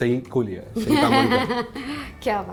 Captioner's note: giggles